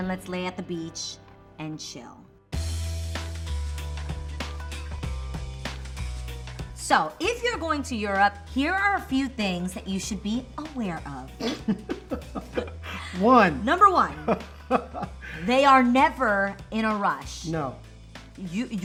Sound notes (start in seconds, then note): 11.4 laughing